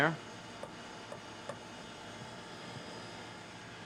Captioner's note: motor